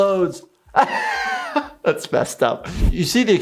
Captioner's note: laughs